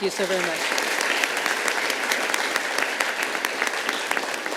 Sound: all applauding

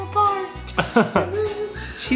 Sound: dad laughs

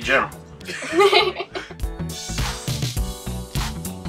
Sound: laughing

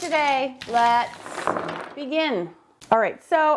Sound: products clattering

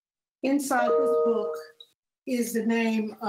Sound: computer notification rings

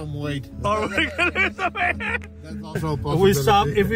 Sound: both are laughing

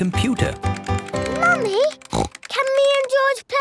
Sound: snorts

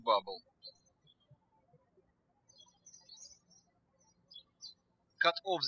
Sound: birds chirping

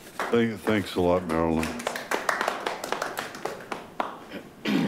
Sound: members clapping

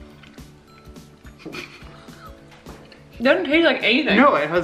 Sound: laughing

